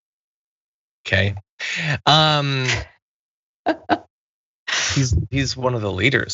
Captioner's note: laugh